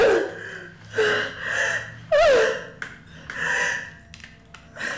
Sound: woman whines and pants

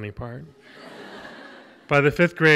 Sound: audience laughs

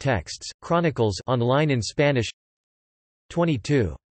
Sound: on line in Spanish

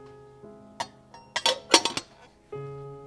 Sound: tea pot lid closes

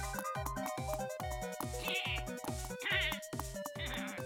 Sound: angry grumbling; laughing

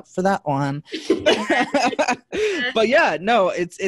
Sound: everyone laughing

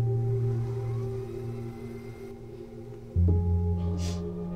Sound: solemn music; device whirring

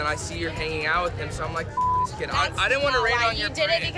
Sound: beep

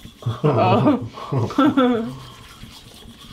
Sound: laughter

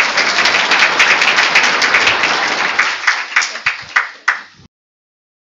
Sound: applause

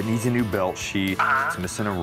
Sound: on phone

